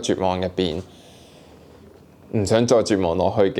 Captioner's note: deep breath